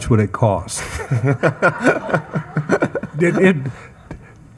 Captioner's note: attendees laughing